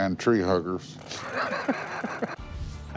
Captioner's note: laughter